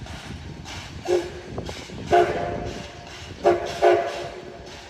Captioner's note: several short whistles